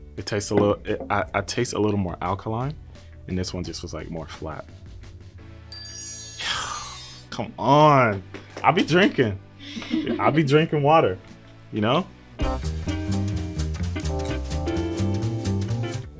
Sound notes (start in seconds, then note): 5.7 text tinkling; 9.7 people laughing; 12.3 upbeat jazz music